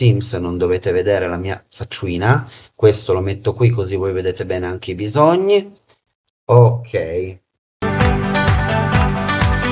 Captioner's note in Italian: Applauso